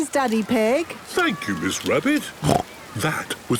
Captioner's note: snorts